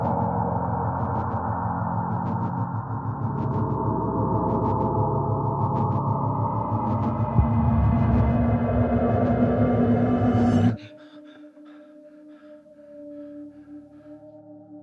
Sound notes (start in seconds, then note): 5.0 distorted chilling tone rising; 10.8 Andrew gasping